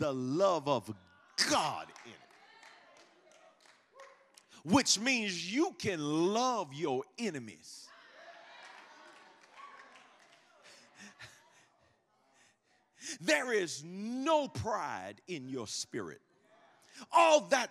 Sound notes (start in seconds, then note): 8.0 congregation cheering